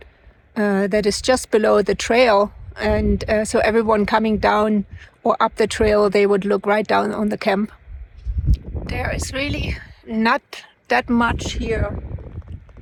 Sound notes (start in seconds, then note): none